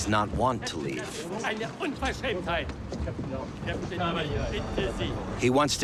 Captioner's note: in German